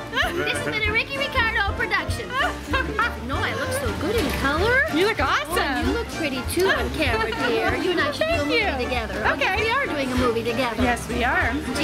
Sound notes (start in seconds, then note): 0.2 laughs; 2.3 laughs